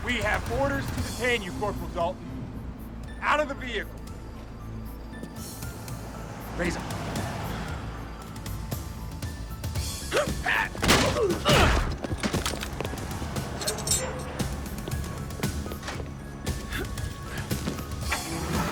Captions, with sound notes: We have orders to detain you, Corporal Dalton. Out of the vehicle. (suspenseful music continues) Raise 'em. (guards gasp) (blows thudding) (guards grunt)